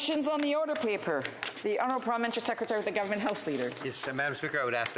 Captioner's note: speaking French